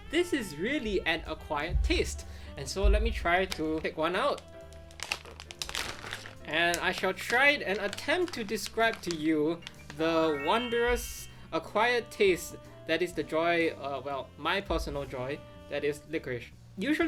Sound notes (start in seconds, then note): 5.1 wrapper crinkles; 10.1 magical tinkling